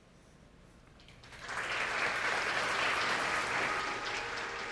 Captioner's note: audience clapping; calm music